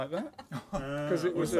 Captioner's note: dubious groans